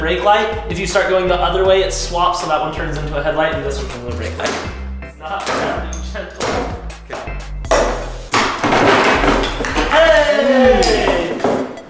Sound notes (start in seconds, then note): 4.1 clanking; 10.0 cheering